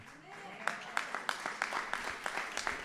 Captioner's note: applause